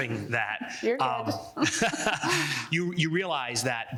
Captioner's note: laughs